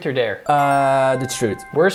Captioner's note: ring chimes